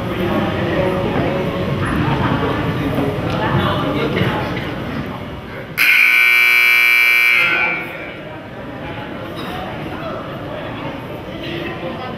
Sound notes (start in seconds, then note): 5.8 buzzer goes off